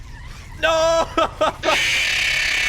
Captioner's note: laughs